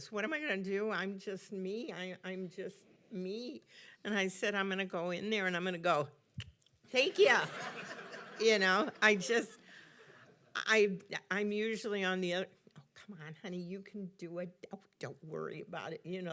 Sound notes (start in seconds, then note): 7.2 audience laughing